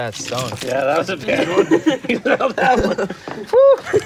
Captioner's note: laughter